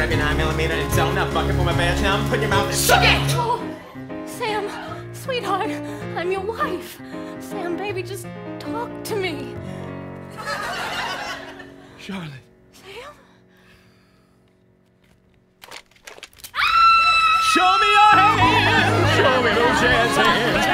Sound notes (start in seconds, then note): 3.2 speaking; 11.7 speaking; 15.6 gun cocks; 16.5 screams; 17.1 singing